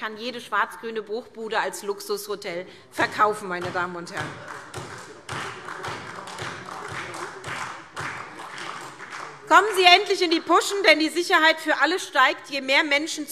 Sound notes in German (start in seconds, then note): 4.1 Beifall SPD